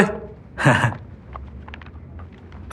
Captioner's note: giggles